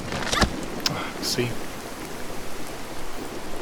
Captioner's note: sigh